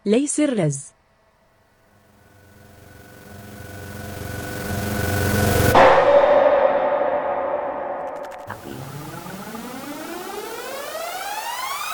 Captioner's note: Aqilah shooting lasers